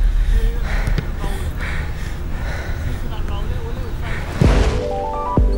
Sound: Alex breathing heavily

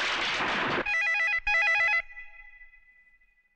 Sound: phone Ringing

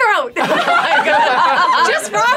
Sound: all laughing

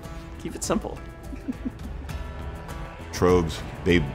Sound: laughs

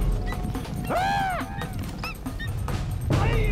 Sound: eagle screeches

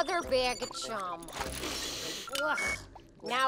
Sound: sniffing

